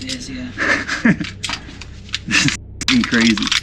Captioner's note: laughs